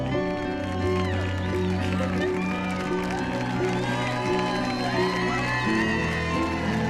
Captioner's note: cheers and applause